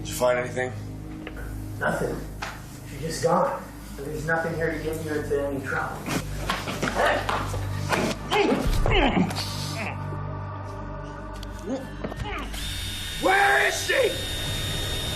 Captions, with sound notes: - Did you find anything? - Nothing, she's just gone. And there's nothing here to get you into any trouble. - Hey, hey. (drill buzzing) - Where is she?